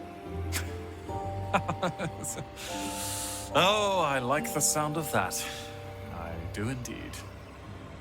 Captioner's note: laughing